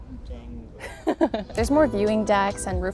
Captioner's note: laughs